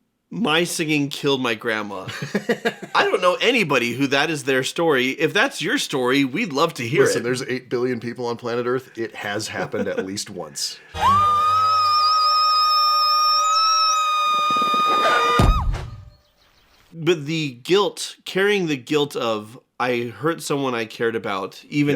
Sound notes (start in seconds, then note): 11.0 bird-exploding sound